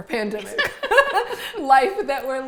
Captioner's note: all laughing